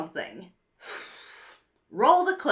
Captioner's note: sighs